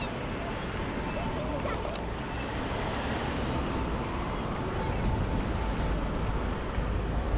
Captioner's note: wind Blowing